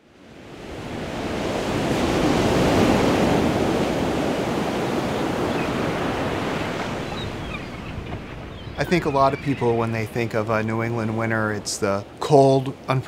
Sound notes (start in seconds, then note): 0.2 waves whooshing; 4.1 birds chirping